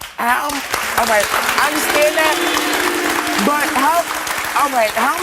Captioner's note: audience applauds; audience boos